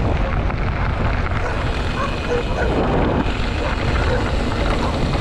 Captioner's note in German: bellende Hunde links